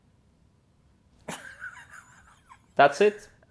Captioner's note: laughs